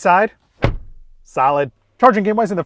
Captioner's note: door bangs